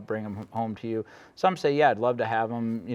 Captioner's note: none